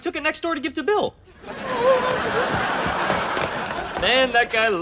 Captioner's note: laughs